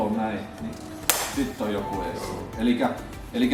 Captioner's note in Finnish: läpsähdys